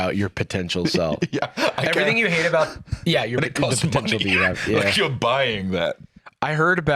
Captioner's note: laughing